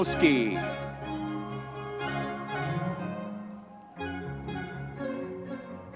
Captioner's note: audience members cheering